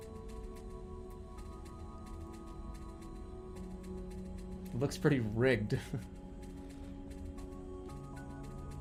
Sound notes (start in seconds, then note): 6.5 chuckles